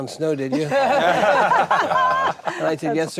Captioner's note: group laughing